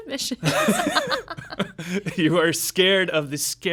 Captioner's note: laughing